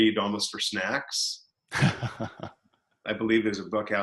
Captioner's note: laughs